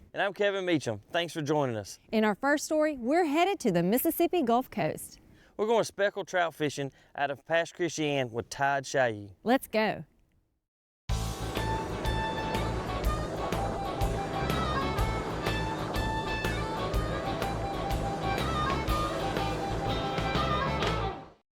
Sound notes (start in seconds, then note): 8.2 engine purring; 8.2 upbeat music